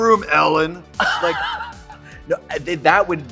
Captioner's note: Katya laughs